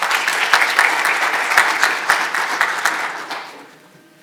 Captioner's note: audience applauding